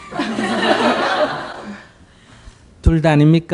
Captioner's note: audience Laughter